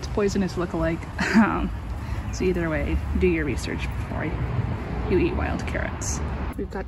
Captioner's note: laughs